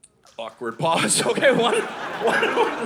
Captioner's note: audience laughing